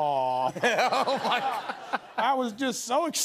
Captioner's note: laughter